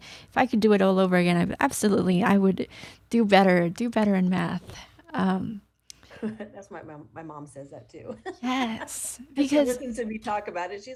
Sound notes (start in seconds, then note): 8.1 laughs